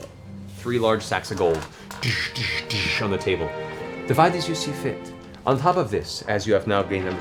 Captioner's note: heavy impacts